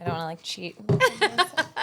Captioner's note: laughing